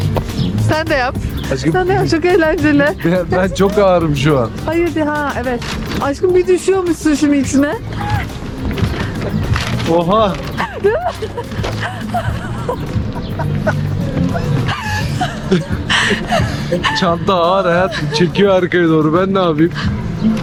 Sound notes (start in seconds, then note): 12.1 laughter